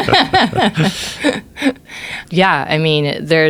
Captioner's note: laughter